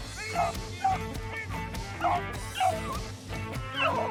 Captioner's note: dogs barking